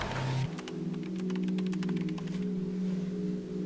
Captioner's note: keyboard clicks